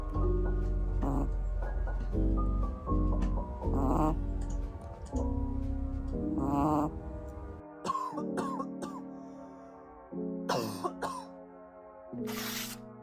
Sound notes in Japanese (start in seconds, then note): 10.4 咳で起こされた